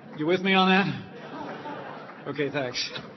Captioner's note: laughter